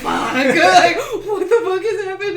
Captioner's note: laughter